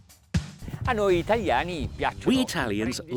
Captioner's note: speaks in foreign language